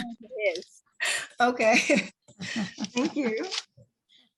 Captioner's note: laughs